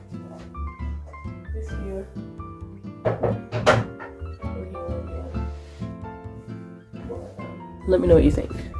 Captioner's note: mumbling to myself again